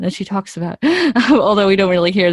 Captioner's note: laughs